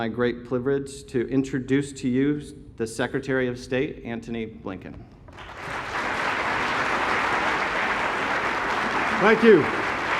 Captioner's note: applause